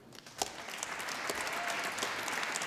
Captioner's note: applause